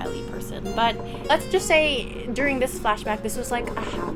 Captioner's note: chair creak